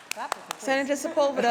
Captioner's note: applause